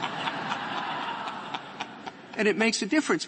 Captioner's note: laughter